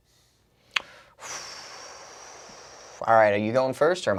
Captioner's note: exhaling